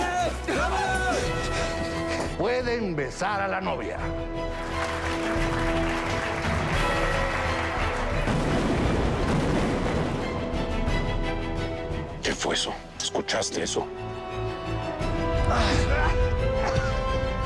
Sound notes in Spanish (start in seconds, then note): 4.5 Aplausos; 8.1 Explosión